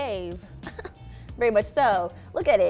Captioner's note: giggles